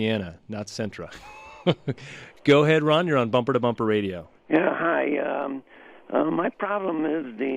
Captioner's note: laughs